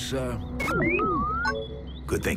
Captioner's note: electronic tones